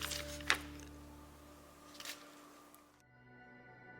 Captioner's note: paper rustling